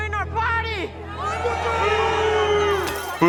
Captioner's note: party goers boo; glass smashes